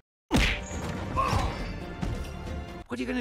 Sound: grunt of pain

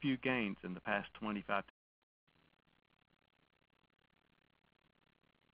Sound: audio cuts out

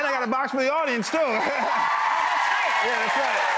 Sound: audience cheering and clapping

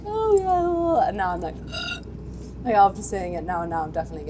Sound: gasps

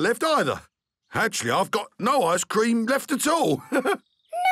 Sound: chuckles

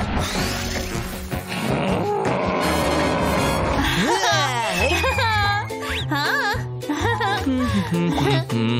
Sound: laughing

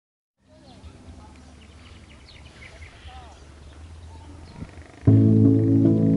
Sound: birds chirping with small crowd in distance; soft Piano Music Playing

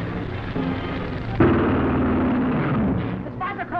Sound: engines droning

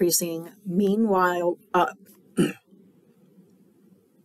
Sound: clears throat

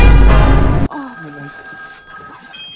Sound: moans while be Calling

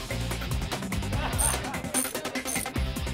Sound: ratchet sounds

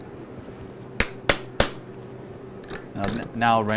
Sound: hammering sound

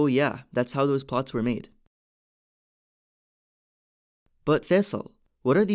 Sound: few second pause

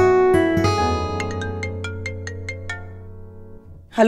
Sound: phone ringing

